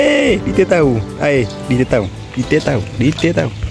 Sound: arrggh

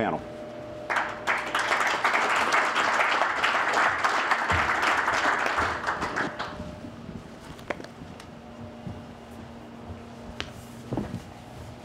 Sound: applause

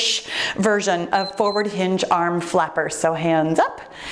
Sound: timer beeps

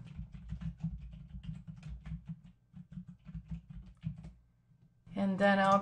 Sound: typing

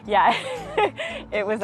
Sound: laughs

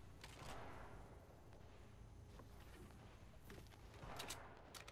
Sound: weapons changing clangs

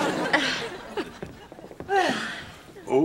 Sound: chuckling

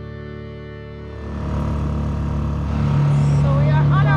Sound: motor whirring

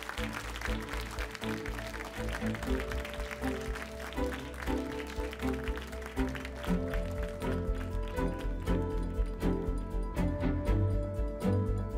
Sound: applause

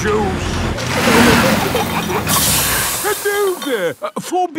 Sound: peppa and george giggling; air hisses

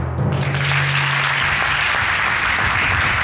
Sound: audience applauding

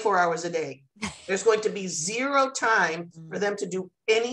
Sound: laughter

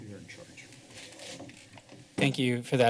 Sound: chair creaking

